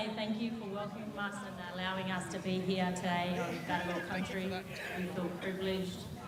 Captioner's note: speaks indigenous language